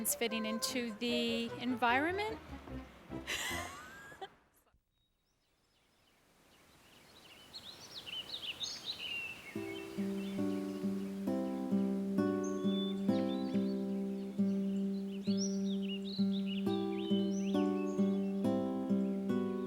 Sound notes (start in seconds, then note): 7.4 birds chirping; 10.2 gentle music